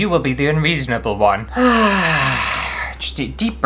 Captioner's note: sigh!!!!